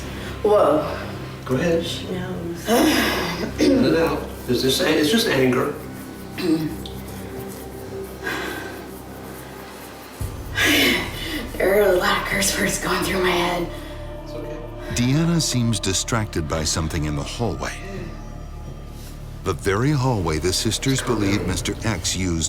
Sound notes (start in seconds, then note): 15.3 voiceover